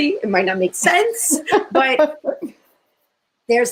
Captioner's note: laughter